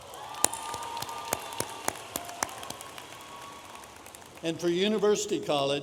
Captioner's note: audience applauding